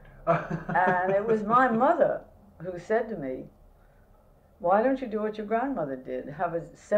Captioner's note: laughter